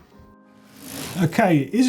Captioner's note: whoosh